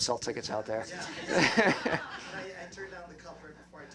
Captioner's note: laughter